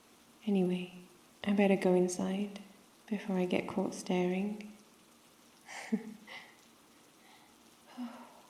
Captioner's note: laughs